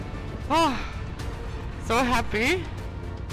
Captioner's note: sighing